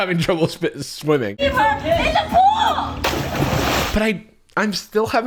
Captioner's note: water splashing